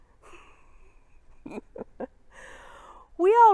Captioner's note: chuckles